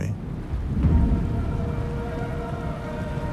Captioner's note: thunder